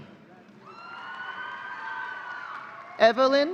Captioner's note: audience cheering